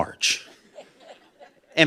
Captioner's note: laughter